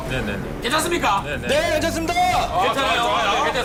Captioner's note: boisterous voices